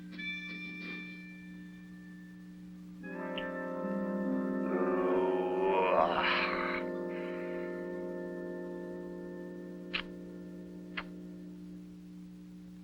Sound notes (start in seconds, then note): 5.0 Colonel sighs